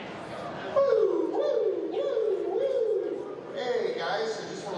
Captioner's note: vocal siren sound